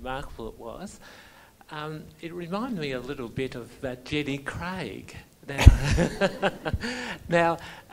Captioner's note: laughs